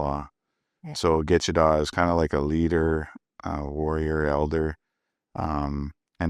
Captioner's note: speaking Indigenous language